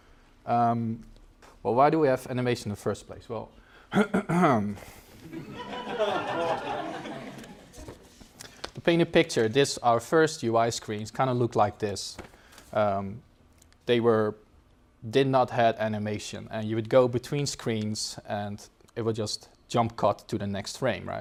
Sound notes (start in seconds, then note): 3.9 coughs